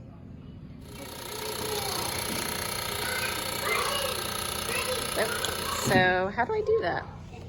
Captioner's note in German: lautes Summen mit beleuchteter Telefonzentrale